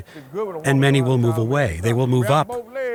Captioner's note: speaking faintly